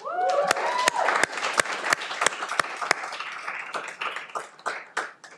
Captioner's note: cheering